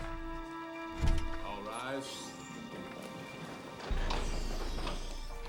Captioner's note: door opens